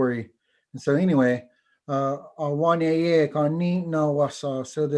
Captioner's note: foreign language